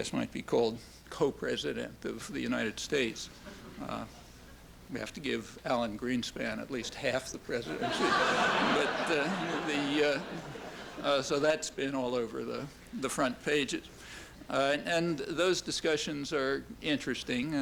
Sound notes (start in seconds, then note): 3.1 soft laughter; 7.7 laughter